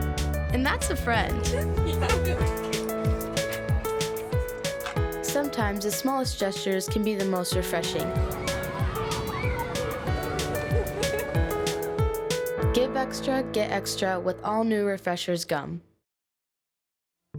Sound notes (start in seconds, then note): 1.3 both giggle